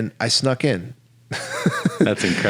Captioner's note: laughs